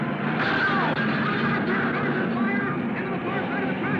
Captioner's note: car crashing